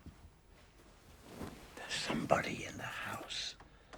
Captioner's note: whispering